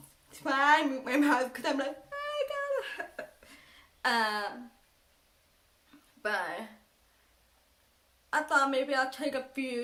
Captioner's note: laughing